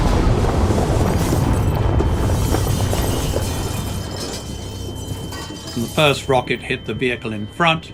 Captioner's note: soundbite of missiles and vehicles exploding